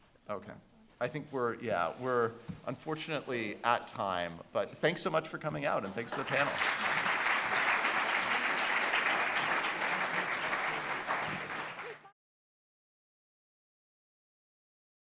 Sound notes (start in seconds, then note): 6.0 clapping